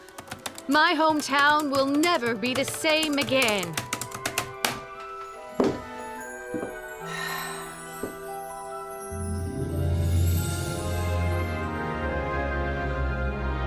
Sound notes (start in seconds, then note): 3.8 typing stops; 7.0 sighs with delight